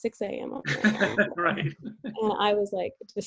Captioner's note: laughs